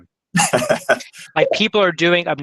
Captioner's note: laughs